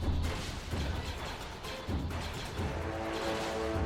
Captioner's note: lasers blasting